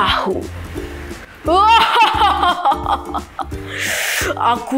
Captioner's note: laugh